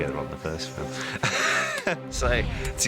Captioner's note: laughs